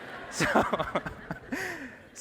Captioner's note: laughs; audience applauding